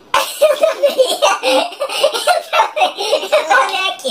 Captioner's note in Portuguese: risos; voz modificada para tom engraçado